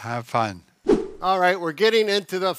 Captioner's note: air swooshing